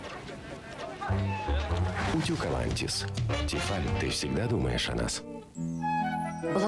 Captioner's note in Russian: кошка мяукает